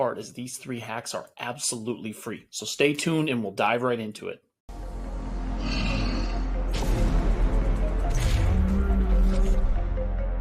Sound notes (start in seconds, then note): 4.7 tense dramatic music; 5.6 bull sneering